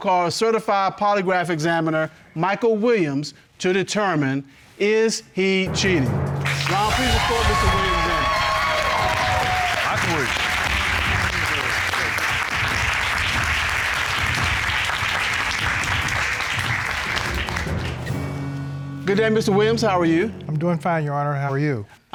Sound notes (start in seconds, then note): 5.6 dramatic music playing; 8.5 applause